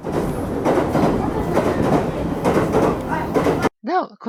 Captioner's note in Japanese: 短尺レールの音